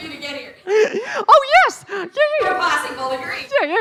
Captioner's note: laughing